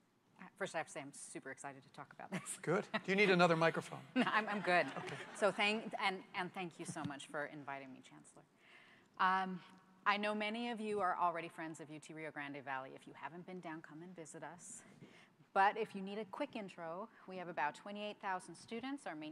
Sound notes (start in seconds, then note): 4.1 laughter